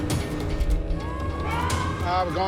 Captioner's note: sirens wailing